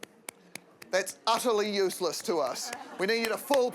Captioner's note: claps weakly; laughter